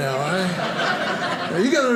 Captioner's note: audience laughing